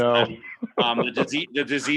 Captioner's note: laughing